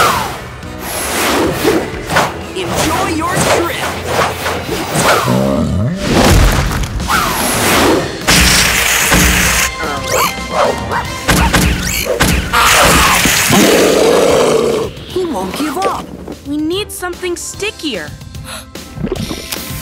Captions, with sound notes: Enjoy your trip! [growling] He won't give up. We need something stickier.